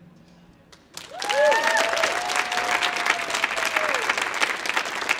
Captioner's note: audience clapping